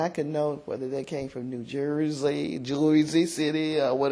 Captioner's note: new jersey accent